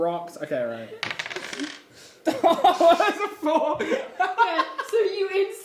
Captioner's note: laughing